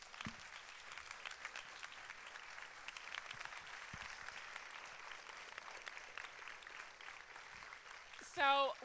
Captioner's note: applause